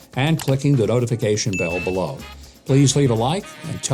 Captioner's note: mouse clicks; bell dings; upbeat music